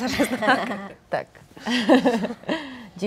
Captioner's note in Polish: śmiech